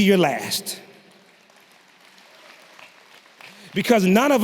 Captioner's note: audience clapping